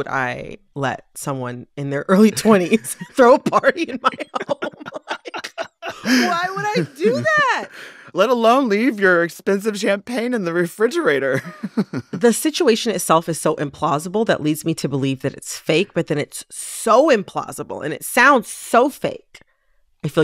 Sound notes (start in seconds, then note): 4.9 laughter